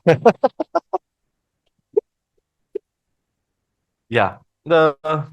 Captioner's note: laughters